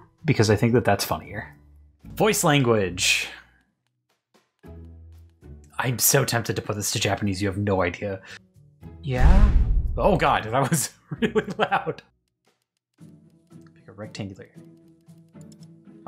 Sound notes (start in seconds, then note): 9.2 wind whooshes; 11.7 laughs